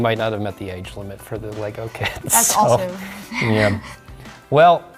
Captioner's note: laughs